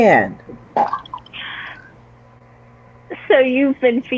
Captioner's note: coffee sloshing